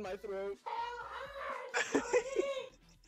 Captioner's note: strange high-pitched voice; laughing; strange high-pitched voice